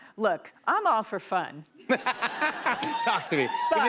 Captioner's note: laughter